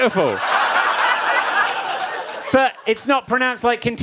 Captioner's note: audience laughs